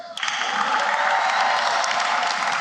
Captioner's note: applause